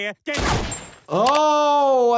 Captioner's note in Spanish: estallidos de disparos